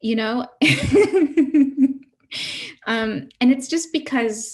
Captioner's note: laughs